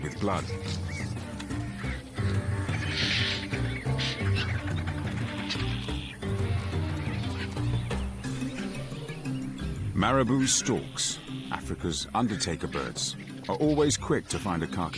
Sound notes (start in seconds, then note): 7.9 birds cawing; 7.9 upbeat music